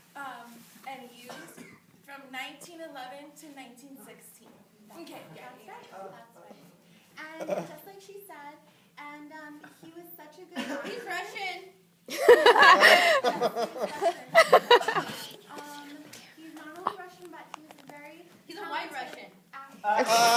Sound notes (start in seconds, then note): 12.1 laughter